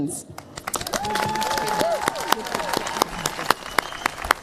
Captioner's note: cheers, applause